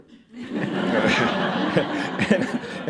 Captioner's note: laughter